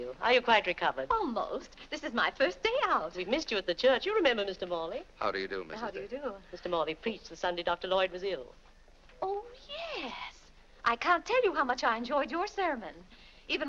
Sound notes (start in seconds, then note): none